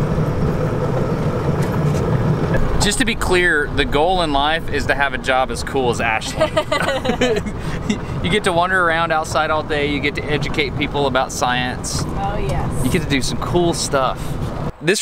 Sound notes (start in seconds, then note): 6.2 both laughing